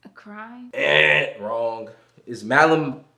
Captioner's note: Malik imitates buzzer buzzing